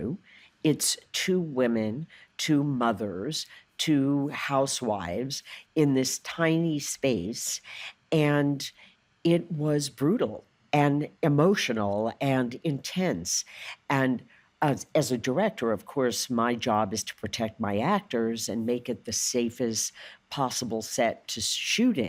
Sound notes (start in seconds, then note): none